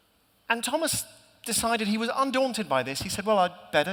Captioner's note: none